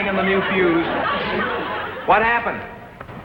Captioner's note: audience laughs